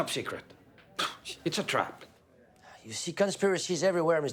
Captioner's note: scoffs